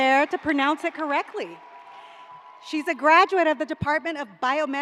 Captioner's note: cheers and applause